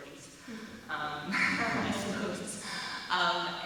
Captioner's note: chuckling